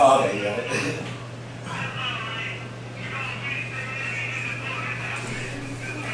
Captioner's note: background chatter